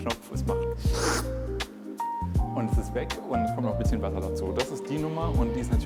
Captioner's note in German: Sauggeräusch